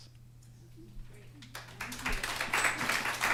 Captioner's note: applause